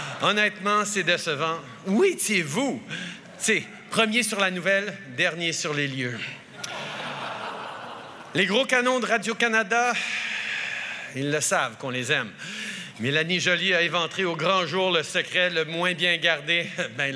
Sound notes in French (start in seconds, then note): 0.1 Rires; 6.5 Rires